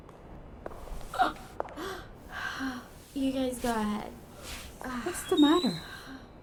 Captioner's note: gasping